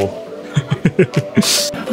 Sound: laughs

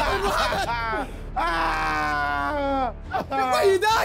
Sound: screaming

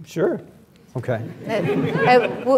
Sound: laughs

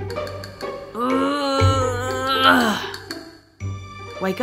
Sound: grunts

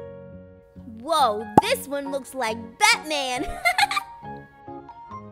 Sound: laughs

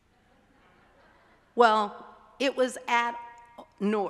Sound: group laughing

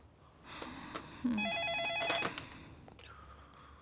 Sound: phone rings

